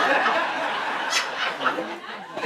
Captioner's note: audience laughs